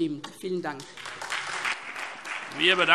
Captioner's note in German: Lebhafter Beifall SPD und DIE LINKE